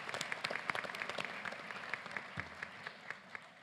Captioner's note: applause